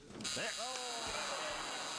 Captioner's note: buzzer